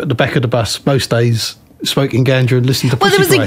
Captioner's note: laughter